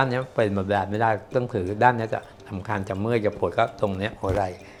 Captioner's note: speaking foreign language